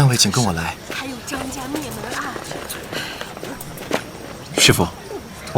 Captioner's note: sigh